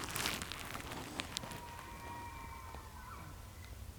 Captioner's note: elk bugling